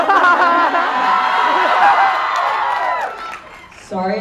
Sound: obnoxious laughing

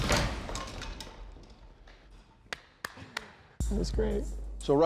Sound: claps

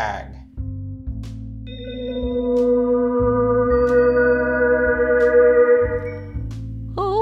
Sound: dreamy Sci-fi sound fx

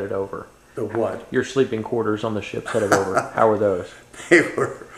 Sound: laughter

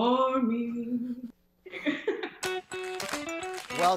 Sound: laughing

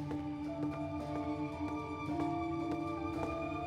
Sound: none

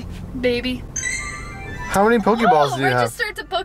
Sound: chime

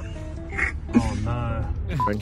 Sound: laughter

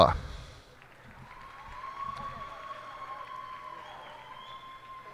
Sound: cheers and applause

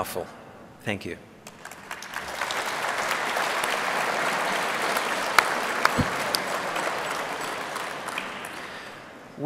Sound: applause

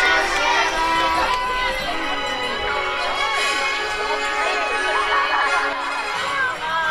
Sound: cheering, overlapping chatter, bright music

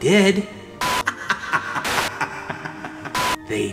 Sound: laughs

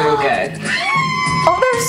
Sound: contestants screaming

